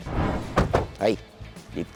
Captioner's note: doors thud